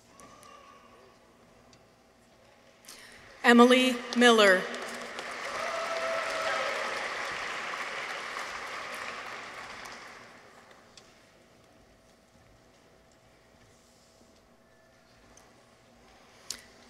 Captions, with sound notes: Emily Miller. -(people cheer) -(audience applauds)